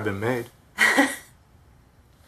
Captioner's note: chuckling